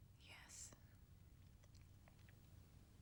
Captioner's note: whispering